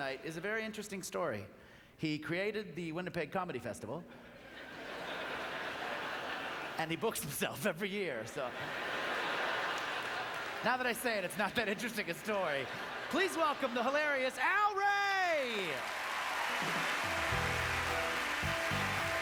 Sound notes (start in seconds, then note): 4.5 audience laughter; 8.5 audience laughter; 15.2 applause